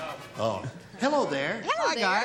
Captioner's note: laughs